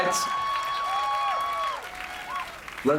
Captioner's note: cheering